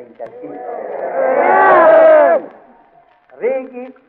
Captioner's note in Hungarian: éljenzés